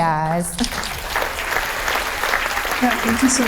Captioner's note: applause